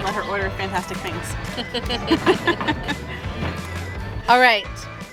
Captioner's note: laughs